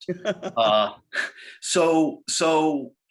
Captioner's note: laughs